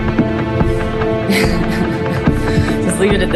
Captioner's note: laughing